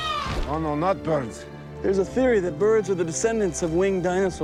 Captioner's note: loud squawk